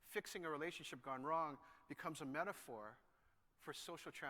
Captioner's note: none